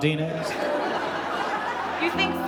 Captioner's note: audience laughing